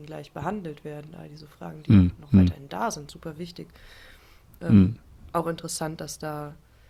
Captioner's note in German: räuspern